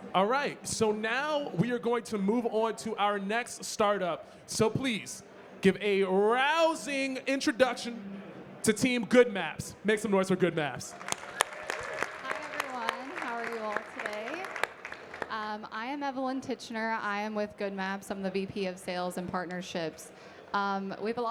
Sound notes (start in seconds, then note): 10.9 audience cheering and clapping